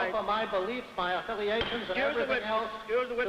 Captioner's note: gavel banging